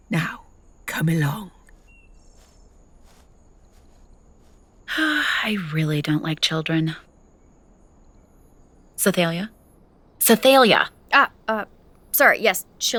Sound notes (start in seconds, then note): 0.8 walking sounds recede; 5.4 sighing